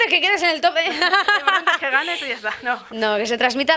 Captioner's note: laughs